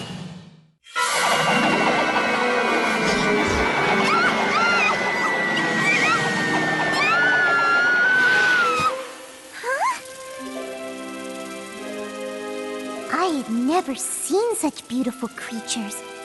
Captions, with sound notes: Ah! Aah! [ Screaming ] Huh? I had never seen such beautiful creatures.